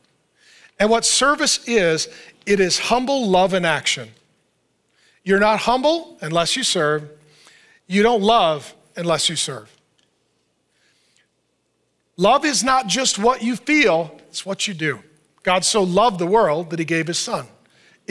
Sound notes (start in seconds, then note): none